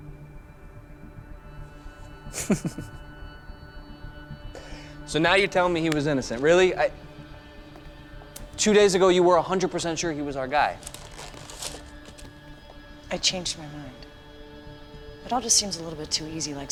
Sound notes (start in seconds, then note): 2.3 chuckles